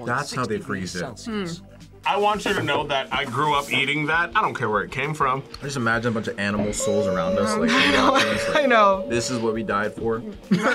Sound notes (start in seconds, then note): 7.6 laughs